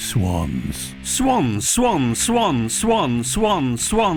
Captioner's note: voiceover